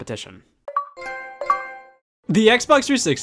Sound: Xbox and PlayStation sounds

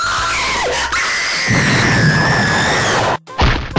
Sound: screaming

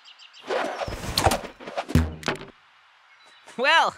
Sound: thuds

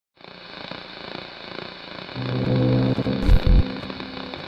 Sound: static screeching

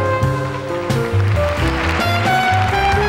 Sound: audience applauding

